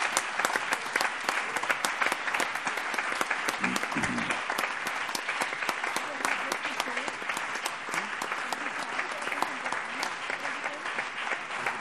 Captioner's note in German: Anhaltender lebhafter allgemeiner Beifall